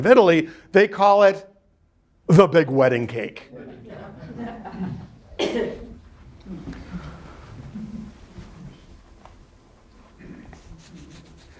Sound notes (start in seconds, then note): 3.5 students laughing